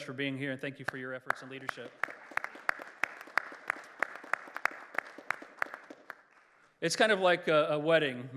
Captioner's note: applause